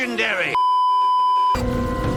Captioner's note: beeeeeeeeeeeep